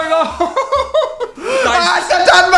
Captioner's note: shocked gasps